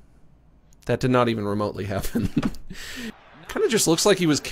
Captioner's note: chuckles